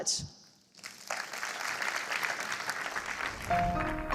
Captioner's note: applause